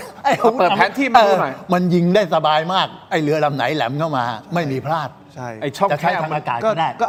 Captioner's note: laughter